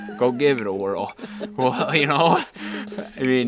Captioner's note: laughing